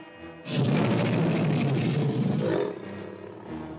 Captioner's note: ominous music; tiger growls; crocodile roars; ominous music